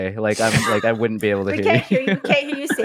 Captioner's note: laugh